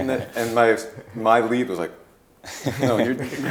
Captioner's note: laughing